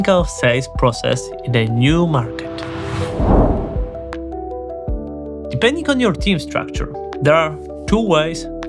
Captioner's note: whooshing